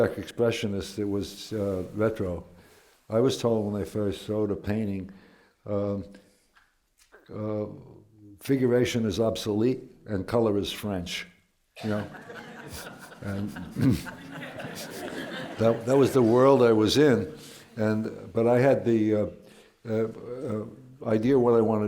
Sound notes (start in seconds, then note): 11.8 laughter